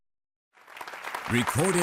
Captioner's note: applause